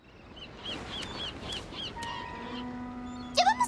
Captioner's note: gulls squawking